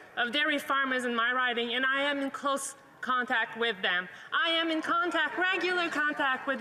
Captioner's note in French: voix de l'interprète